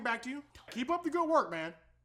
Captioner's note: whispers